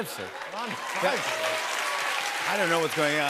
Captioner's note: applause